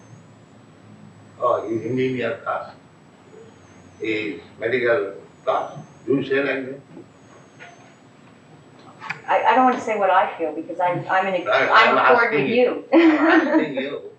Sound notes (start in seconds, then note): 12.9 laughs